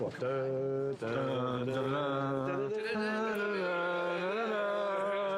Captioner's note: all humming